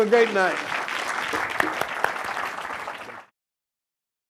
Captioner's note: applause